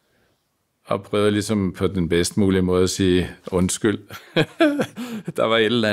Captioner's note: laughs